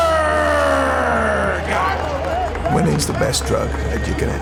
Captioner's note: crowd cheers and applauds